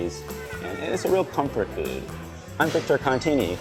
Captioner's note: laughing